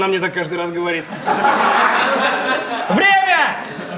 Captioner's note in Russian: Смех